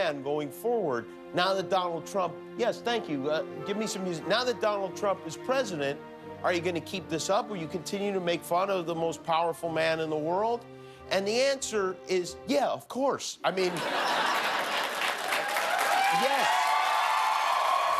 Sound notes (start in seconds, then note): 13.6 laughter; 13.7 cheers and applause